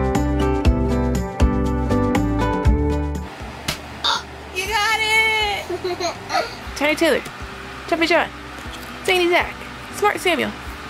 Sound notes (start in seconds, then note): 3.6 card claps on table; 5.6 chuckles